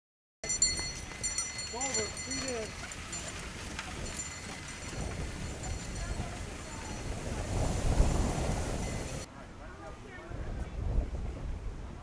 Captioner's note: bells ringing and distant voices